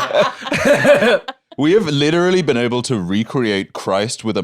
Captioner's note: laughs